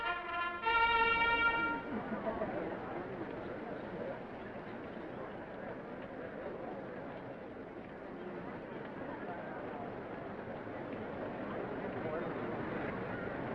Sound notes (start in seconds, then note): 2.0 attendees chattering